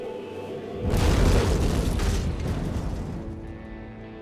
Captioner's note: bomb exploiting